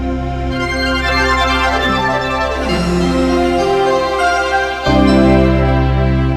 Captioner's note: soft upbeat music; logo whooshing